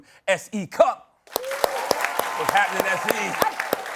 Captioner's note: cheers and applause